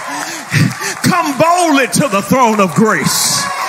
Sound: people cheering

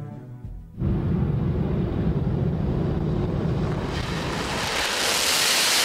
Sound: airplane engine roaring

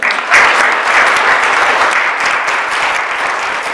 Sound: applause

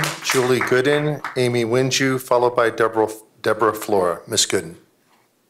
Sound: applause

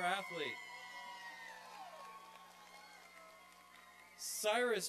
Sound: applause and cheering

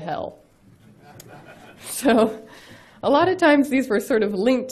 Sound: audience laughs; laughs

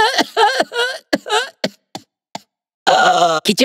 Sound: cough

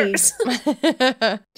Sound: laughing

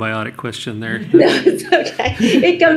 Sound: laughter

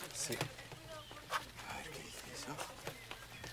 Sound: whispering

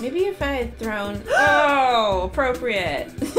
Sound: gasp

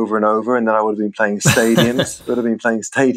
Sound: laughter

